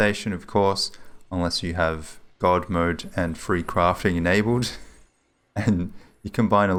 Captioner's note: chuckles